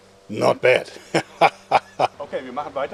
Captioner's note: dirty laugh